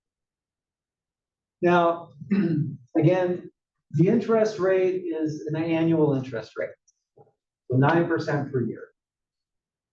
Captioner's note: cough